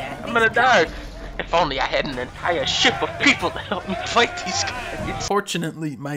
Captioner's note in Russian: смех